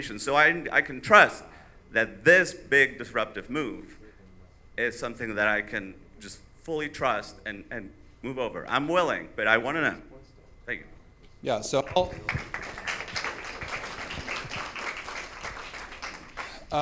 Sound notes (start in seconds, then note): 11.8 audience applauds